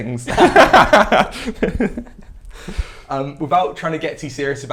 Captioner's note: laughs